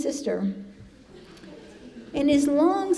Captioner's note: congregation laughing